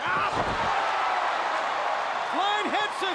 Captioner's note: crowd cheering